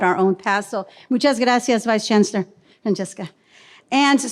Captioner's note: speaks in foreign language